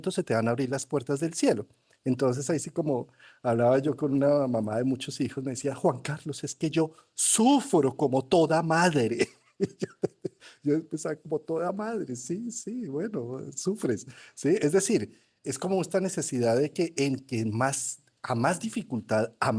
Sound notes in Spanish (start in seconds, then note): 9.1 risas